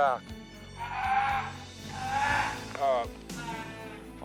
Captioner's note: bear crying